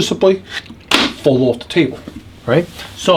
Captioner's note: sharp thud